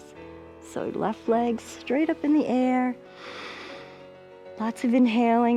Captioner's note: inhaling